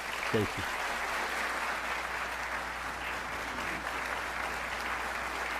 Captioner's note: audience applauding